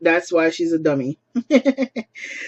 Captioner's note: laughs